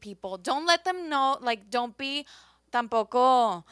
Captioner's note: speaks Spanish